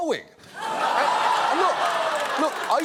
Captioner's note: audience exclaims